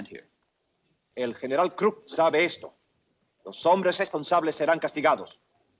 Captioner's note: Ramirez speaks Spanish